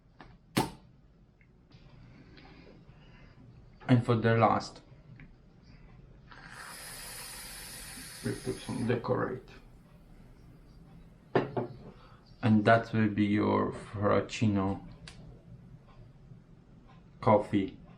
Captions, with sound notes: (cap pops) And for the last. (cream fizzes) We put some decorate. And that will be your fraccino coffee.